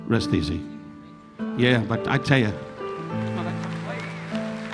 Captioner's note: audience applauding